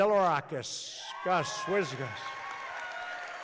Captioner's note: applause